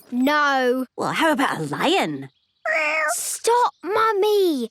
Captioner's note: small meow